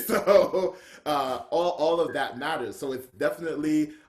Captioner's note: laughs